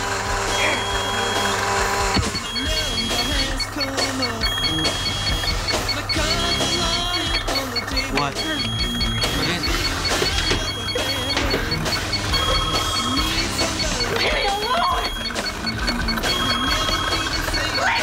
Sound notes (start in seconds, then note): 2.6 stereo keeps playing; 5.0 beep beep; 12.6 ring